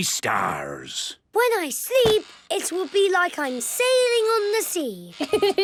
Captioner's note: laughing